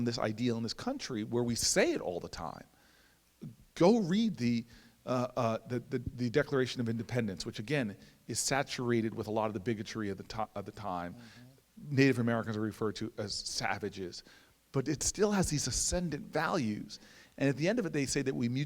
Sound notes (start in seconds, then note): none